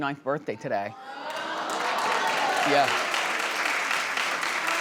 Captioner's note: audience cheering